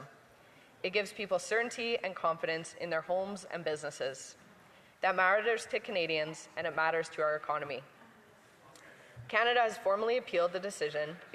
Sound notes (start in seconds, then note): none